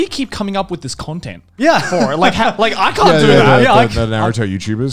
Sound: laughs

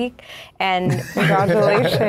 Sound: laughs

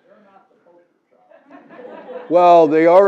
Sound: laugh

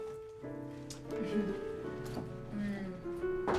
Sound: chuckling

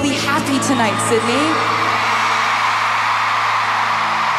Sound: cheers and applause

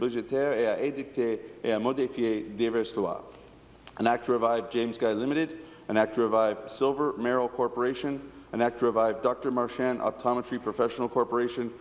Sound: speaking in French

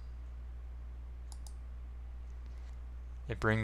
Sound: mouse click

